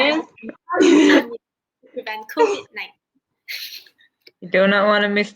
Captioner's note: chatter